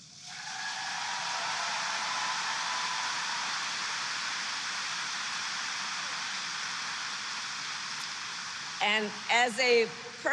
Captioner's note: applause